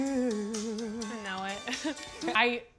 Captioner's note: chuckles